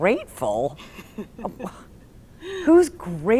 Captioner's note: laughs